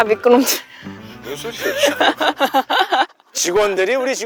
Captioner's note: laughter